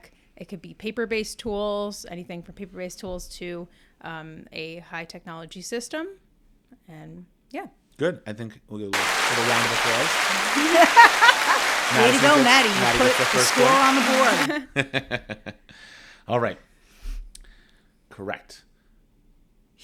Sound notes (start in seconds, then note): 8.9 round of applause plays